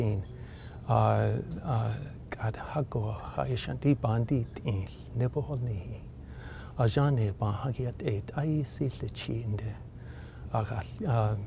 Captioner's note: speaking in Navajo